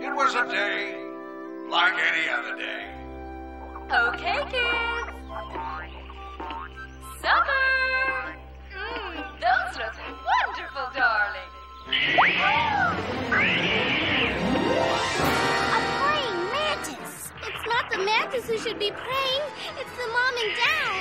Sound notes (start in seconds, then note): 11.4 gasps; 11.8 screeches